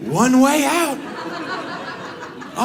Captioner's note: audience laughs